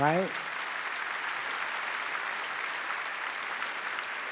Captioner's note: audience applauds